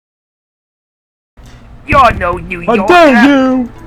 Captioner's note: kids shouting